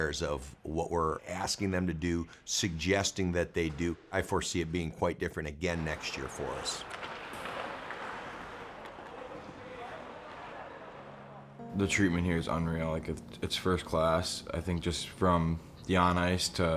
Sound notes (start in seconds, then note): 8.0 muffled chatter